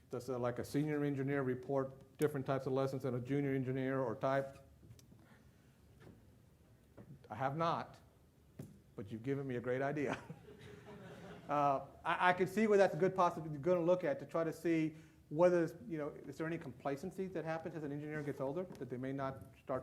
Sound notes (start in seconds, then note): 10.1 laughs; 10.1 loud laughter